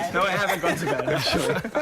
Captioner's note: laughter